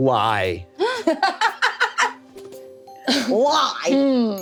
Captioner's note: laughs